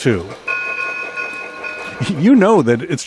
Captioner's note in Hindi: ट्रेन की घंटी की आवाज